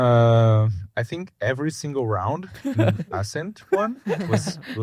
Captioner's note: laughs